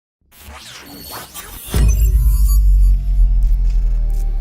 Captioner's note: electronic noises